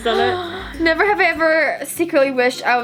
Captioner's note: gasping